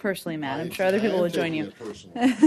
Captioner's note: laughter